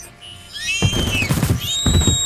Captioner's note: gunfire; thumping sound